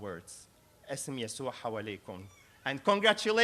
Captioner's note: speaking arabic